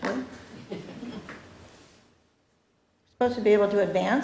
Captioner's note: laughter